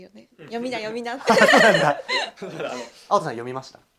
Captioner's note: laughs